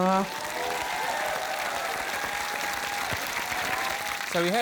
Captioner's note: cheering, applause